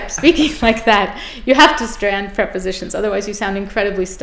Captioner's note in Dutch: lach